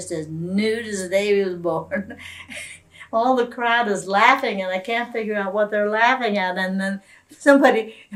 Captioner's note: laughs